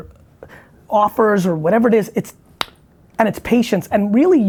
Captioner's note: clicks